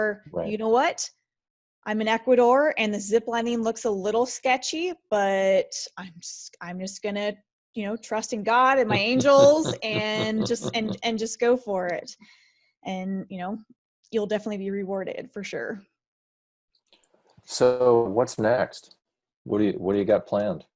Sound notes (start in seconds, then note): 12.0 laughs